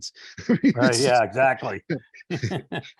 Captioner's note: laughing